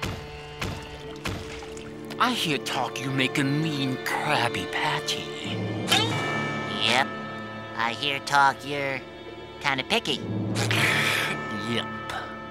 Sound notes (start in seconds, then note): none